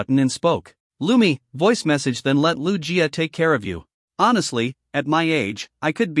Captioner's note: voice Message